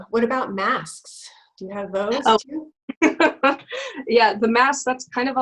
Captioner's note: laughs